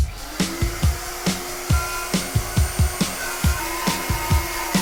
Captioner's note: power tool whirs; upbeat music